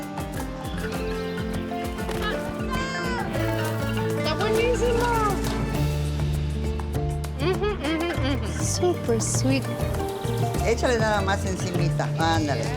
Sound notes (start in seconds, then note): 0.1 sighs; 2.3 child shouts; 11.2 speaks Spanish